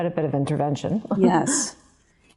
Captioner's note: laughs